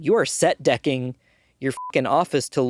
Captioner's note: beeping